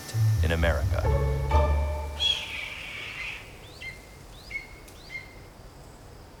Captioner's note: bird squawking; birds chirping